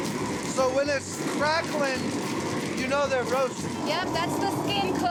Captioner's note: crackling sound